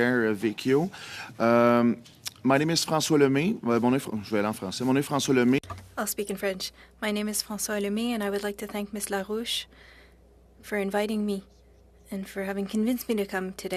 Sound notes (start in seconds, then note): 8.2 speaking French